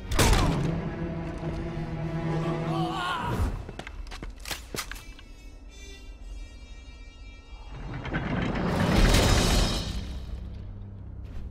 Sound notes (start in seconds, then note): 0.1 wincing; 4.3 gun cocking